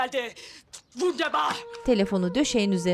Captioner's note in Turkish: Almanca konuşma